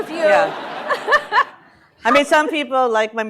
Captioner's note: laughter